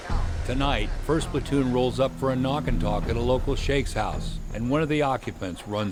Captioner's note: voiceover